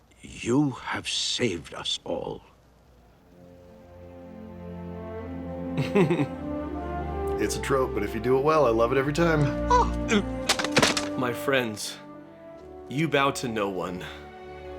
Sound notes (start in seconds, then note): 5.8 chuckles